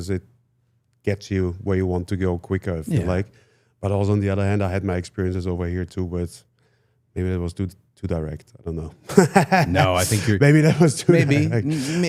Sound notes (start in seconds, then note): 9.1 laughs